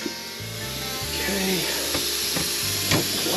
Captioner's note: drill whirring